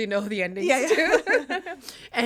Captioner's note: both laughing